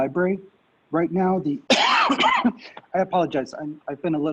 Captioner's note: coughs